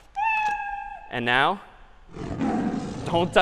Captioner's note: meow; roar